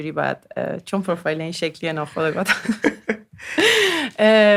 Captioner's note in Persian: خنده